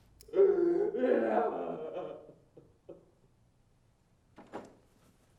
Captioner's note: Lance sobbing